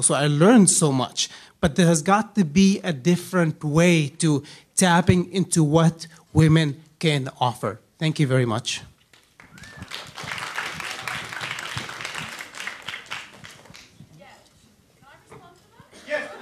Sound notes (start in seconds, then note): 9.1 audience applauding; 16.2 voiceover